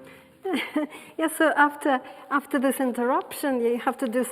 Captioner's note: laughing